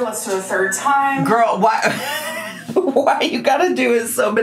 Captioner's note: laughs